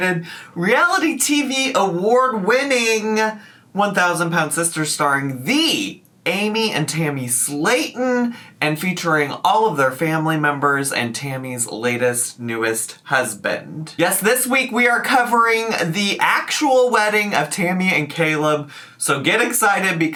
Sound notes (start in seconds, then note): none